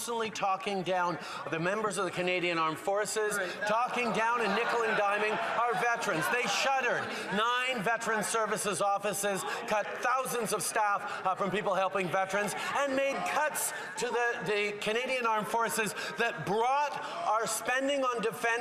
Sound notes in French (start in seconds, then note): 3.3 voix de l'interprète